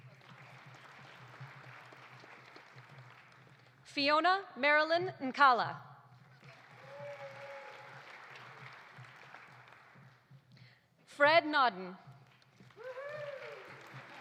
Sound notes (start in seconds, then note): 0.0 audience applauding; 6.2 audience applauding; 6.5 audience cheering; 12.2 audience applauding; 12.8 cheers